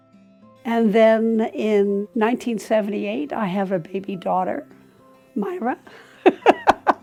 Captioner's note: laughing